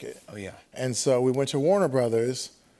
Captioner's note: none